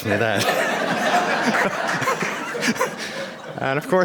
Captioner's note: laughter